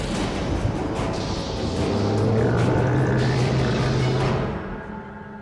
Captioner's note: loud growl